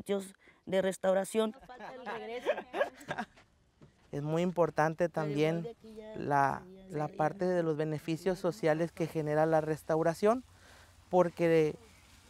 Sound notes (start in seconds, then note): 1.6 laughs; 4.1 speaks Spanish